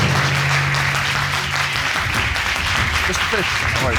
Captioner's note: audience clapping